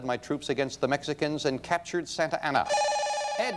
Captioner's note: bell rings